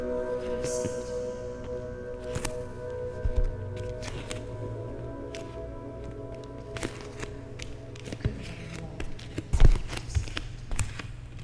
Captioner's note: footsteps on wood floor